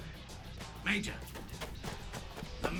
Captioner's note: over comms